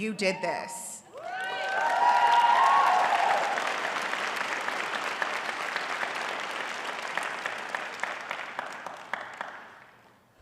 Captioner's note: audience cheering and applauding